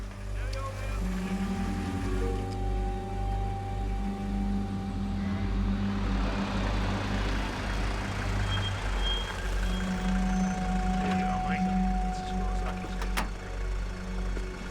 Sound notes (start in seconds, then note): 0.0 vehicle approaching; 2.3 mysterious music playing; 4.3 vehicle approaching; 8.3 brakes squeal